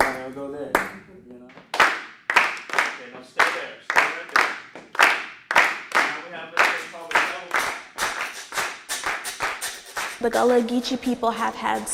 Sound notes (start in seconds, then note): 2.0 rhythmic hand clapping; 5.4 rhythmic hand clapping